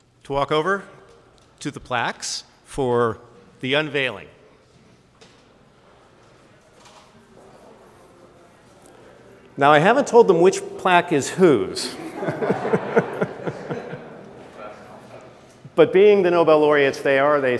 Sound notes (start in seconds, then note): 11.9 all laugh